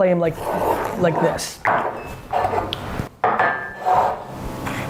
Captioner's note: scraping